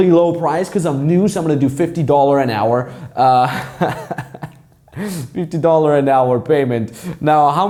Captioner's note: laughs